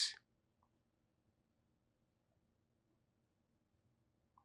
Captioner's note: pauses 12 seconds